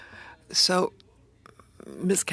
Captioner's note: speaking french